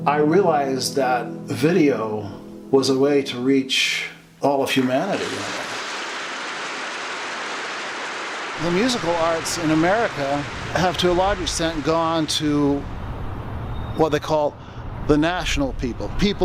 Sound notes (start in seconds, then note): 4.8 audience applauds